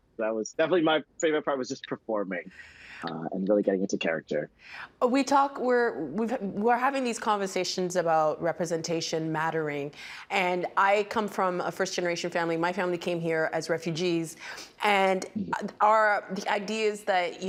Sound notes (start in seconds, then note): 3.1 laughing